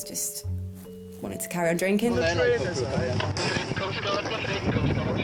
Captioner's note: radio chatters